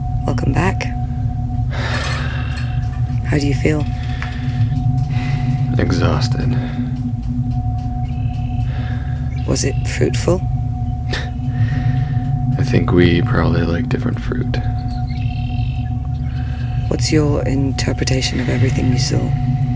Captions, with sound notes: Welcome back. How do you feel? Exhausted. Was it fruitful? [Dave laughs] I think we probably like different fruit. [songbird] What's your interpretation of everything you saw?